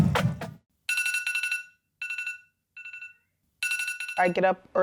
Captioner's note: upbeat drumming; alarm chimes